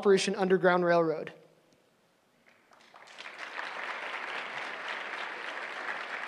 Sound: applause

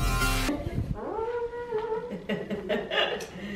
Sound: laughter

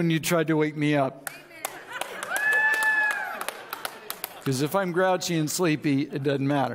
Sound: audience cheers

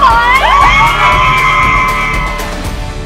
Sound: cheering

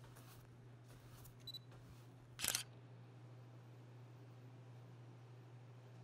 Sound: camera shutter clicking

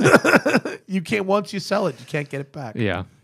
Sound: laughter

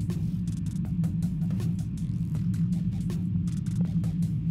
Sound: space ambience

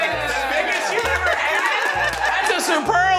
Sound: crew celebrating

